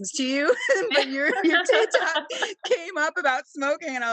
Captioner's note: laughing